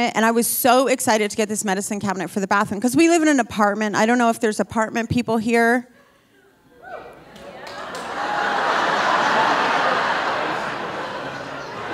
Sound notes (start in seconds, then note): 6.7 audience cheering; 8.7 audience laughing